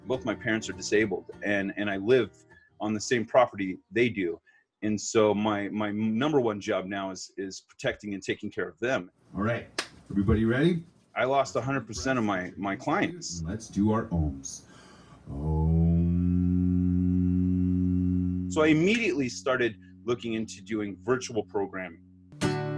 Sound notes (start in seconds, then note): 15.3 humming; 22.5 guitar playing